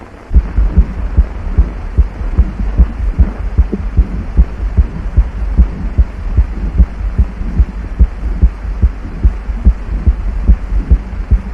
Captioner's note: sound of baby's heartbeat